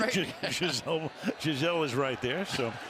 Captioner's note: laughter